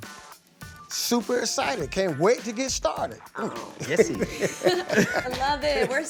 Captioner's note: laughs